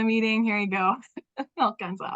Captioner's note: laughter